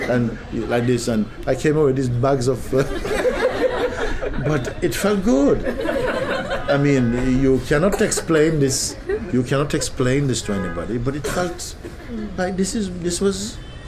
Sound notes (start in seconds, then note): 2.7 laughter